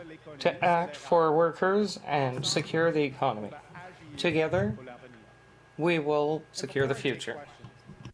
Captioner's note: speaking French